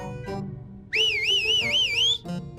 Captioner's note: whistles victoriously